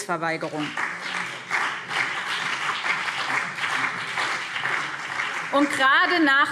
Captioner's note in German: Beifall BÜNDNIS 90/DIE GRÜNEN und CDU